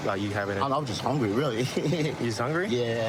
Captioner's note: laughing